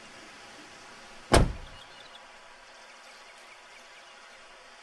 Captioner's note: car door slamming